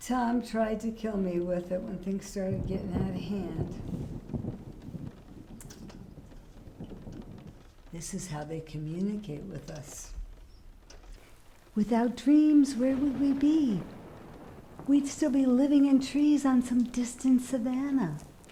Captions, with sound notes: Tom tried to kill me with it when things started getting outta hand. (thunder crashing) This is how they communicate with us. Without dreams, where would we be? We'd still be living in trees on some distant Savannah.